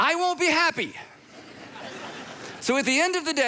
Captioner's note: congregation laughs